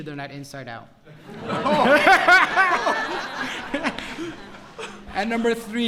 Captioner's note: laughter